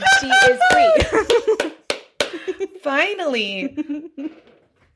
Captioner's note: hooting and applauding